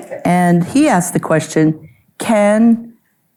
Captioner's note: audience member laughing